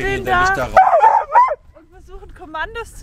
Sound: Caesar is barking

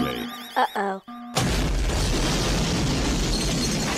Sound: alarm; explosion

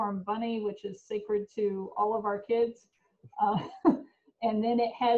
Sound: laughs

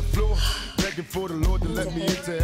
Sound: sighs

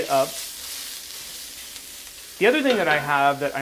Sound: sizzling

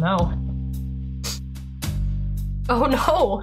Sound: sniff

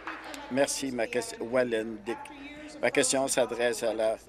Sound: applause

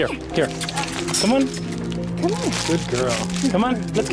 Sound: kissing sounds

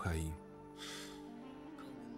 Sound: sighing

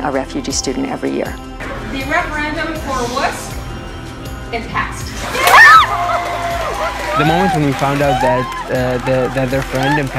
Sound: cheering, applause

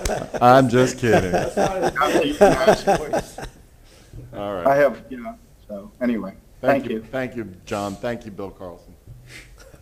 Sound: laughter

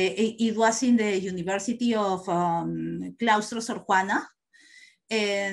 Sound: non-english speech

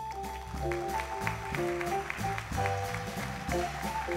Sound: applause

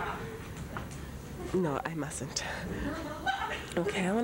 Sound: laughter

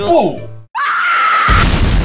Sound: scream like girl; explosion

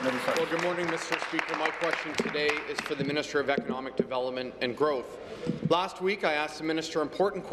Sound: applause

